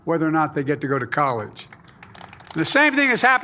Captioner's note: applause